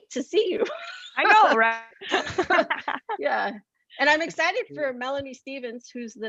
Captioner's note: laughs; laughs